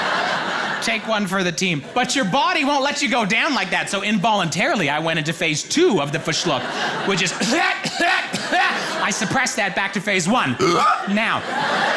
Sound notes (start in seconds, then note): 7.3 coughs loudly; 8.7 gasps loudly